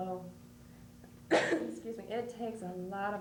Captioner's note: coughs